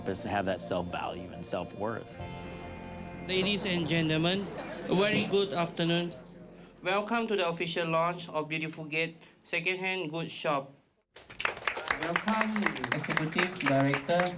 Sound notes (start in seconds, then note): 11.1 applause